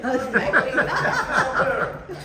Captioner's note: people laughing